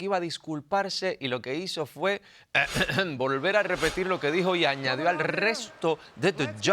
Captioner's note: cough